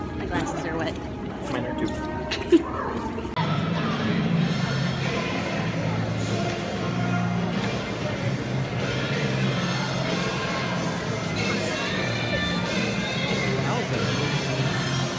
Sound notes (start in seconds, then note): 2.2 laughing; 3.5 uptempo music